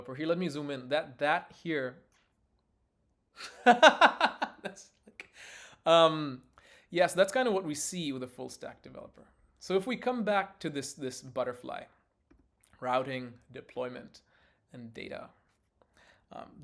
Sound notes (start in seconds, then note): 3.4 laughs